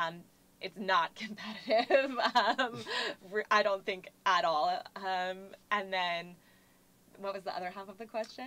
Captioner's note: laugh